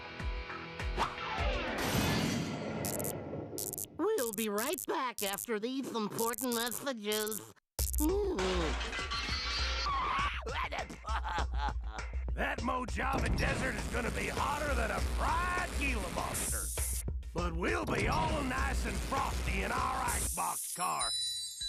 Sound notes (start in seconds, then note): 3.6 buzzing; 8.0 groaning; 9.8 laughing